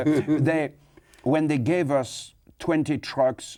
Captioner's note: laughs